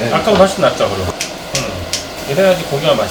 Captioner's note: clap